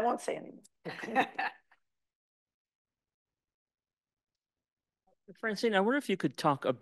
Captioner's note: laughs; chuckles